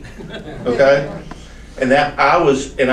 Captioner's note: audience chuckles